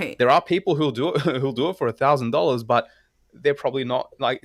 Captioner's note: laugh